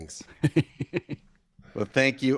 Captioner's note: laughs